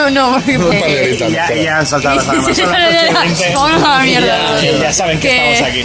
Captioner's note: absurd and stupid things in spanish while laughing